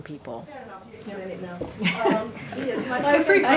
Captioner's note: laughter